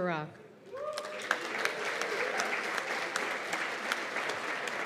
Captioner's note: cheers and applause